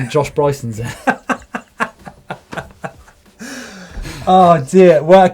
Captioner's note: laughing